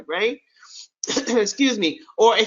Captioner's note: clears throat